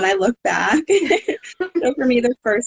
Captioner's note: laughing